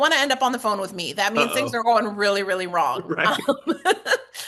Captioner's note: laugh